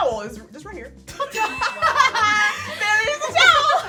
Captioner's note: women laughing